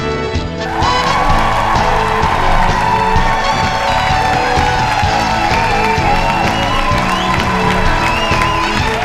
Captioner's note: audience cheering